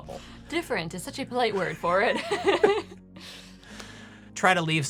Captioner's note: laughing